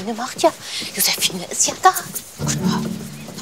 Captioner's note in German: flüstert; Verärgertes Flüstern